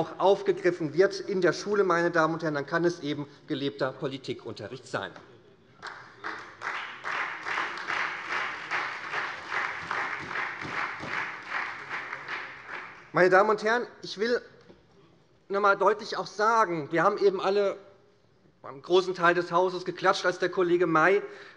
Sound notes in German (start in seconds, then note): 5.8 Beifall SPD